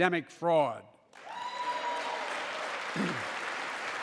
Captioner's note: applause